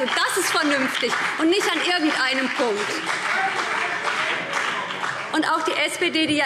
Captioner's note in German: Beifall BÜNDNIS 90/DIE GRÜNEN und CDU